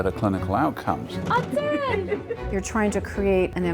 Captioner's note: laughs